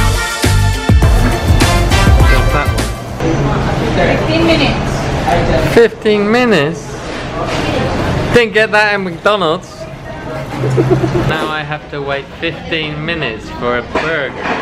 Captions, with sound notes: 15 minutes. 15 minutes! Didn't get that at McDonald's (Laughter) Now I have to wait 15 minutes for a burger